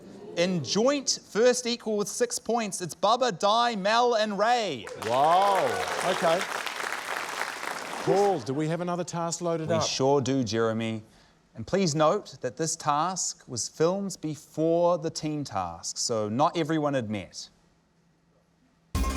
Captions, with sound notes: In joint first equal with six points, it's Bubbah, Dai, Mel and Ray. (APPLAUSE) - Whoa. OK. Paul, do we have another task loaded up? - We sure do, Jeremy. And please note that this task was filmed before the team tasks, so not everyone had met.